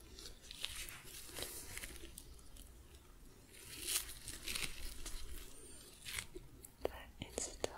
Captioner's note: sticky sounds